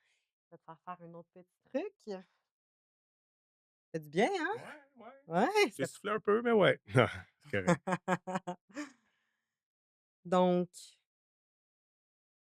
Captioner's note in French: rires